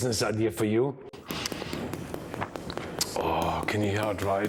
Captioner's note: crispy pork thudding